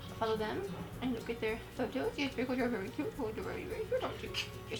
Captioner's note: cooing